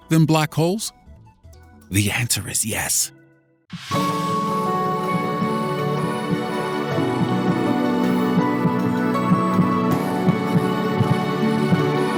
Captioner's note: whisper